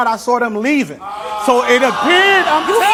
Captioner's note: audience exclaims in disbelief